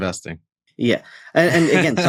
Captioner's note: laughs